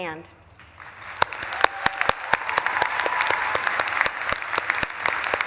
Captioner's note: audience claps and cheers